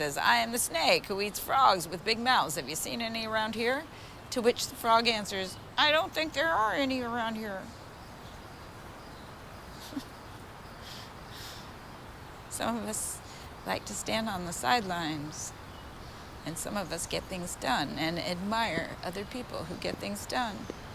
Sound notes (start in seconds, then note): 9.7 Vanessa chuckles